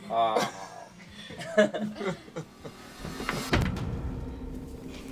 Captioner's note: laughing; soft dramatic music